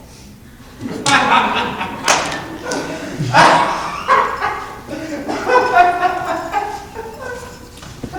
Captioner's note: laughter; laughter?